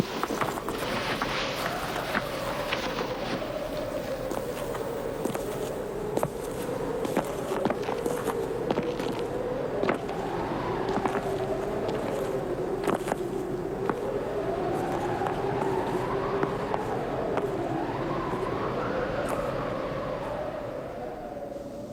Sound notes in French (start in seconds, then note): 1.0 Sifflement du vent; 5.5 Bruit de pas